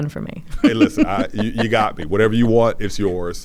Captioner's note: laughs